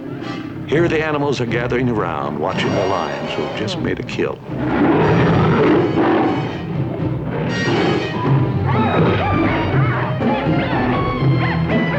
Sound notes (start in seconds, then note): 4.4 roaring; 8.5 hyenas yipping